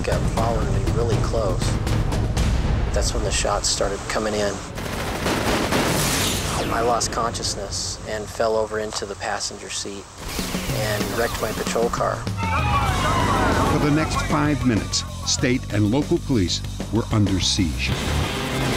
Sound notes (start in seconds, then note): 4.7 gunfire